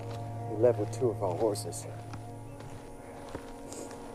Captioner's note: sniffs